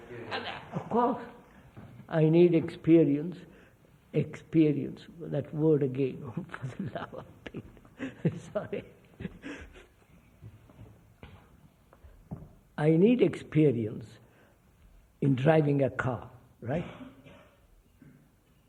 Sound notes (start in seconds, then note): 9.8 laughs